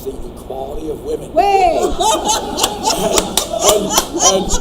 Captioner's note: laughing